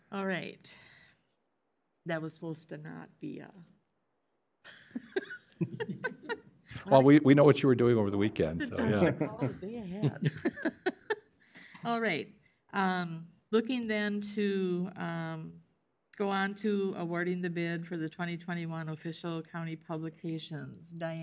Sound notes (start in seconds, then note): 3.6 laughs; 9.9 laughter